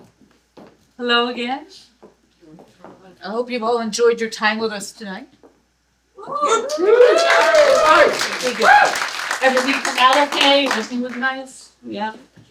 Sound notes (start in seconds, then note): 6.4 hoots, applause